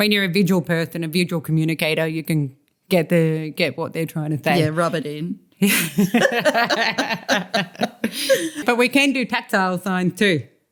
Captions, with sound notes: When you’re a visual person and a visual communicator, you can get there. Rub it in (laughter). But we can do tactile signs too.